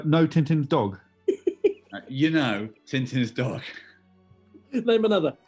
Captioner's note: giggling